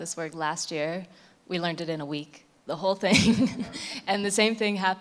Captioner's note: laughs